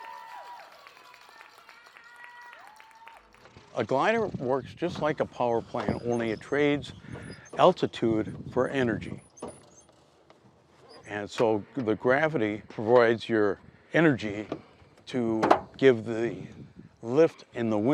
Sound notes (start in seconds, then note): 2.0 audience claps, cheers; 10.3 glider creaking